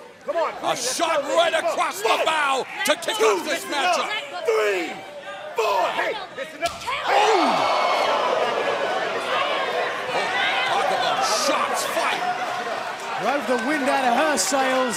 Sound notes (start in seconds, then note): 9.9 cheers and applause